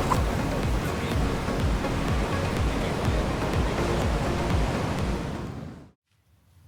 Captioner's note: laptop shuts; ocean breeze; backpack zipper